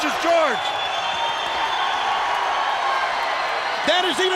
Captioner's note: crowd whistling; crowd cheering